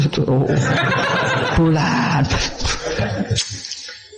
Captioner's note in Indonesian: tertawa